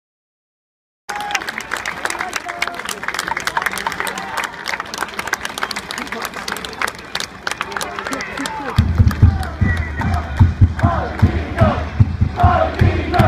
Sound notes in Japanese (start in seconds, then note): 1.0 拍手